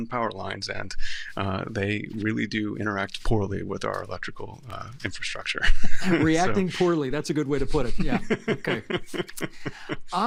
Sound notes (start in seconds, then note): 5.6 laughter